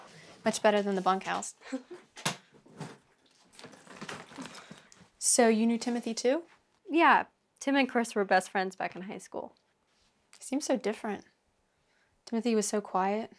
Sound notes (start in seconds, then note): 1.6 Maria laughs